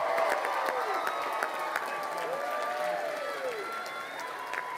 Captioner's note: crowd cheering and applauding